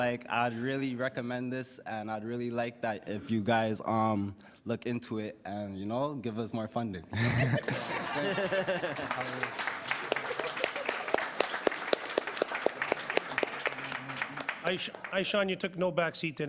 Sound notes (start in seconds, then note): 11.9 applause; 11.9 laughter